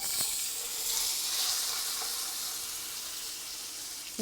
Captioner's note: pan sizzling